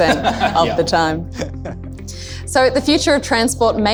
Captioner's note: laugh